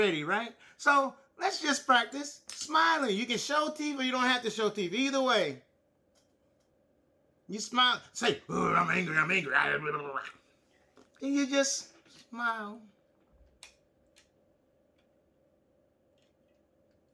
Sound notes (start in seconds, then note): 8.3 exclaims